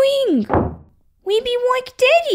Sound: slam!

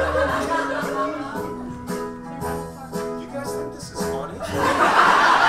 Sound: audience laughs

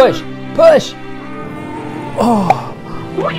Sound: groans

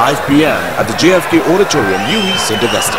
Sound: wild applause and cheering for 22 seconds

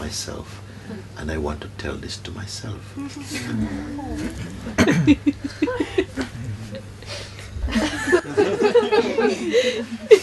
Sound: laughter

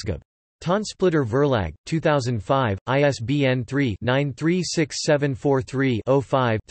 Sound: in German

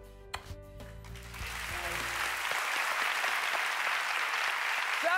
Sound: applause

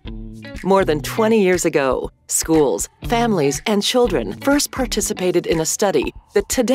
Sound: voiceover

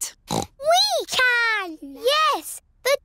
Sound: snorts

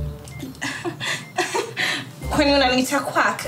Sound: chuckles

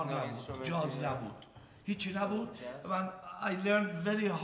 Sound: speaking in farsi

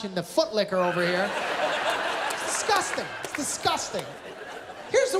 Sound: laughter, applause

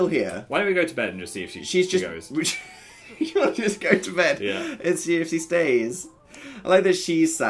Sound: laughs

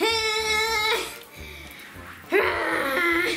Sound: groaning

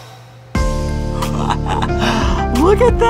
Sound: laughing

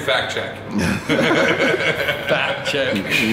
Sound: laughing

